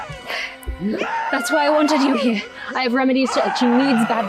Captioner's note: screaming from tent